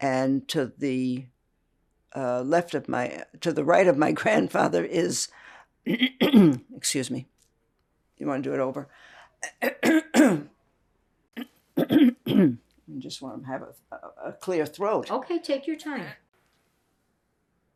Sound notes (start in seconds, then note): 5.9 clears throat; 11.8 clears throat